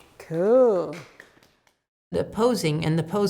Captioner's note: clapping